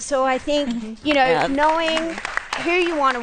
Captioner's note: applause